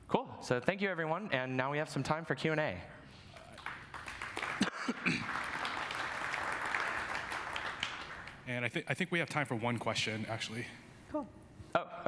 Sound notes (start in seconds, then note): 3.3 audience clapping